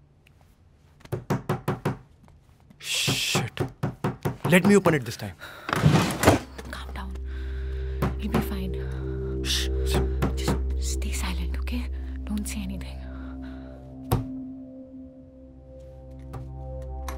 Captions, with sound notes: (Knock on the door) Shit! (Knock on the door) Let me open it this time! (Noise of drawer opening) - Calm down. - (Knock on the door) - Shh! - Just stay silent, okay? Don't say anything. (Somber music)